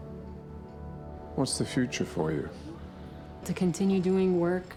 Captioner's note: voiceover